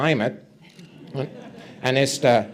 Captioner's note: audience chuckles